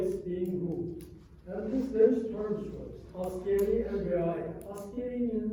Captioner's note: non-english